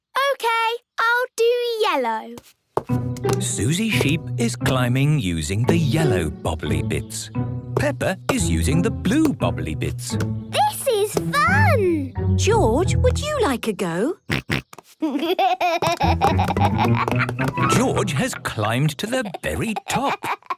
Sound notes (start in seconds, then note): 14.3 snorts, giggles